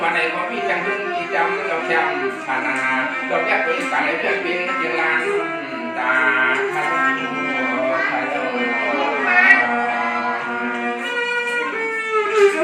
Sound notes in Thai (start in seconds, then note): 6.4 ปรบมือ